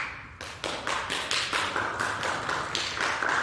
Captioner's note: applause